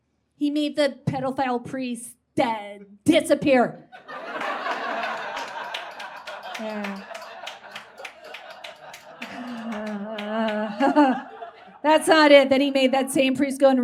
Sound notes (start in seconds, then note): 4.0 audience laughs and claps; 9.6 laughs nervously